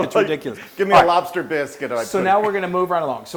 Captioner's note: laugh